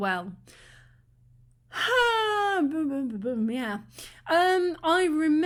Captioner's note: exhale